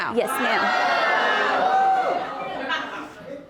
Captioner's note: audience yelling in shock